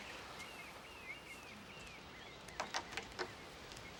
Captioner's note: birds chirping